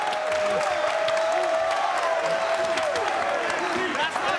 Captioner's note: crowd cheers